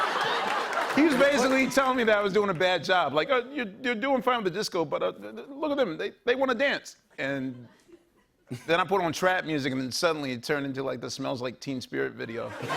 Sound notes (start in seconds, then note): 4.6 stammering